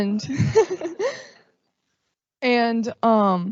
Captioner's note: laughing